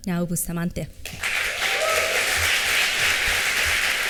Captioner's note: applause